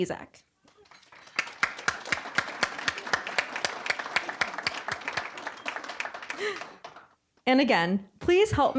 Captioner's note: applause